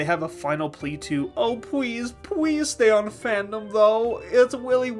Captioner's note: miserable uwu voice